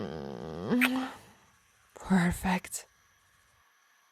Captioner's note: kiss